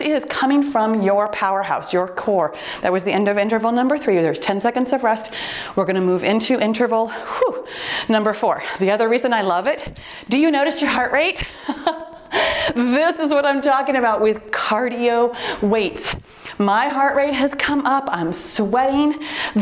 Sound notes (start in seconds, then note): 0.0 timer beeps; 9.4 timer beeps; 11.5 laughs